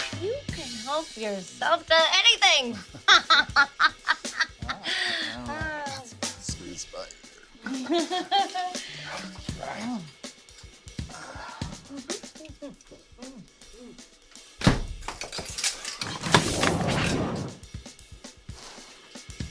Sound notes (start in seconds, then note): 7.6 Maha chuckles; 14.6 door slams; 16.2 mysterious whooshing